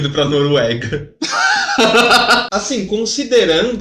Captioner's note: laughing